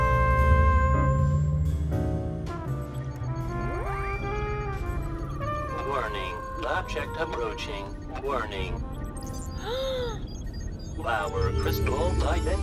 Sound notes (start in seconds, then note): 2.7 system beeping; 9.2 gasps